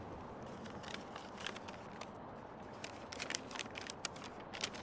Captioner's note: unfolding paper